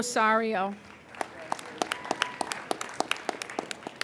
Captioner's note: applauding